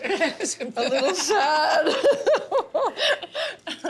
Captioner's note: laughs